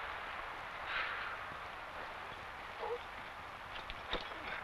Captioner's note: Esparza sighs